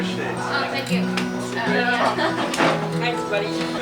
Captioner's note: laughs